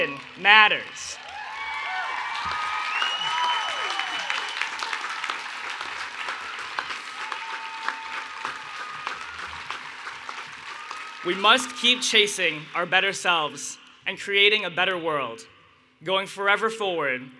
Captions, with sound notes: [ Cheering and Applause ] We must keep chasing our better selves and creating a better world, going forever forward